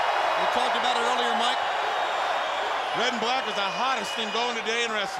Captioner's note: crowd chatter